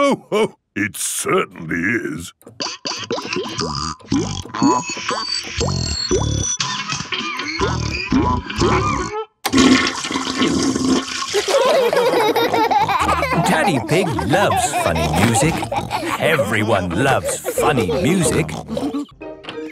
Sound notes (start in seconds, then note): 9.5 toilet flushing; 11.3 laughter